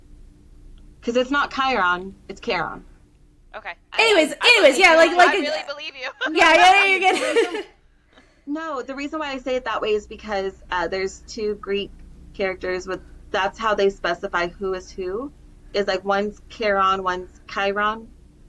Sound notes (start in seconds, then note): 5.5 laughter